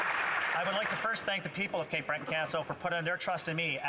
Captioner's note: some Applause